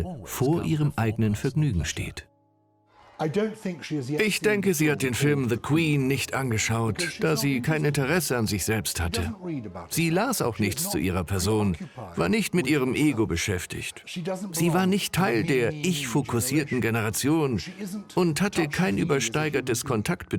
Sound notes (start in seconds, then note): 2.8 voiceover